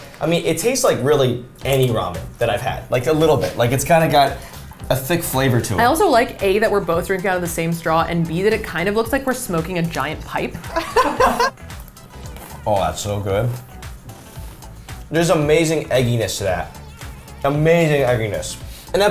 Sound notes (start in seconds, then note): 10.7 laughs